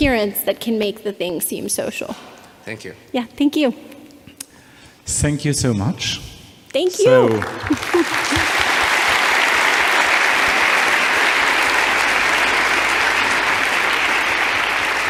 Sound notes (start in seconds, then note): 7.0 audience applauding